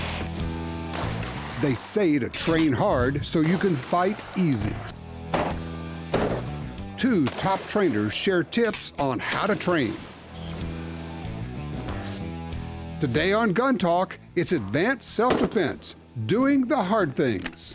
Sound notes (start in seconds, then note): 0.2 instrumental rock music; 1.8 voiceover